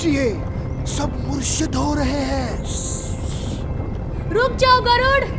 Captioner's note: hissss